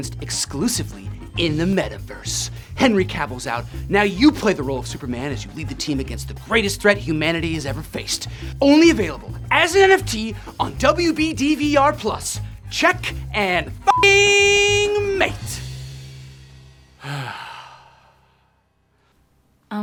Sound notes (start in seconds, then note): 13.8 beep; 17.0 Dick sighs